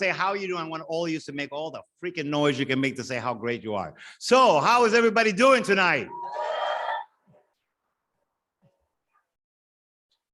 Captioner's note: audience cheers